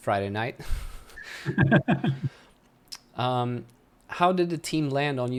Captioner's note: laughs